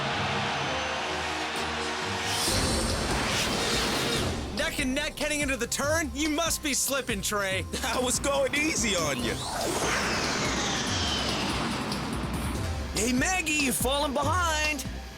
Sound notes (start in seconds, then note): 0.0 crowd cheers wildly; 9.9 jets scream